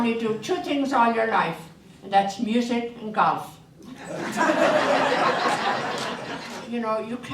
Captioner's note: audience laughter